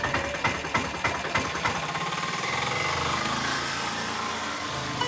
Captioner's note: tuk Tuk noise